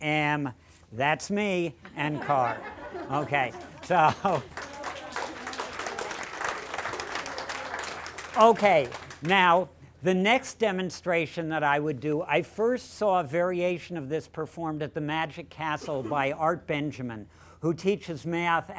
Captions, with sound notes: [ APPLAUSE ] OKAY, NOW, THE NEXT DEMONSTRATION THAT I WOULD DO I FIRST SAW VARIATION OF THIS PERFORMED AT THE MAGIC CASTLE BY ART BENJAMIN WHO TEACHES MATH